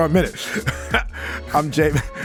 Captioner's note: laughs